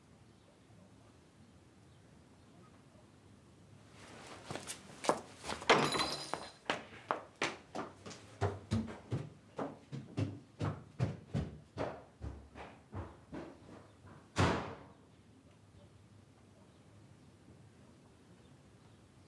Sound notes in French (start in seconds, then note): 5.7 Fracas; 14.4 Elle claque une porte